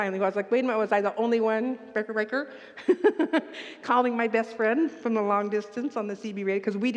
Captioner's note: laughs